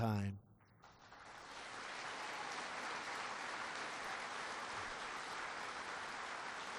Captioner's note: applause